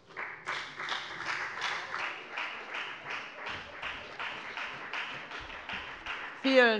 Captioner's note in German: Beifall bei der FDP